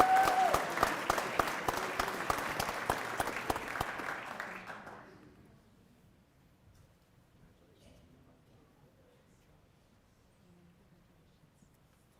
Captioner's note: applause